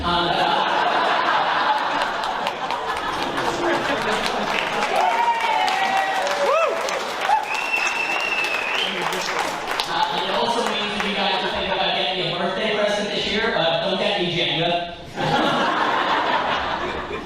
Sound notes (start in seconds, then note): 0.3 laughter; 4.8 crowd cheering; 15.1 laughter